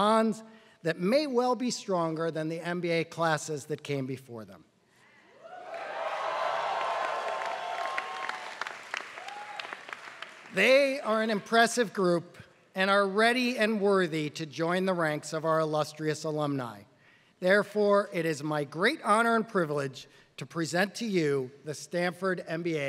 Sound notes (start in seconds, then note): 5.6 applause